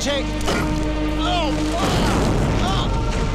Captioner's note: Groans